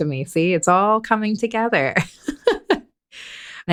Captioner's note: laughing